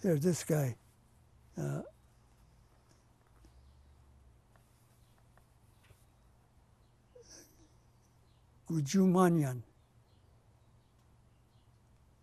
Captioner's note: pauses for 6 seconds; non-english